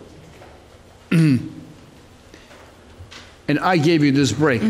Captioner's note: clears throat